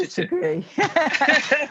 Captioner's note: laughter